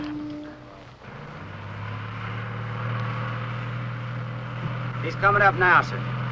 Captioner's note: tanker rumbling